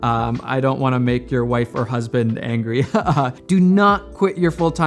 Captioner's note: chuckles